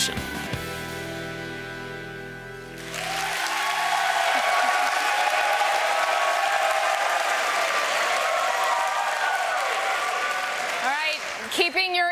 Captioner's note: applause